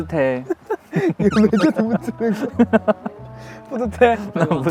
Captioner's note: rubbing